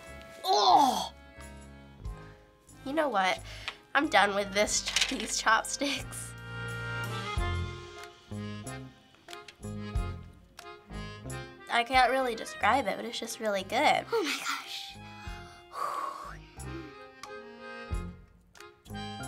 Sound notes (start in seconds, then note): 15.4 takes deep breath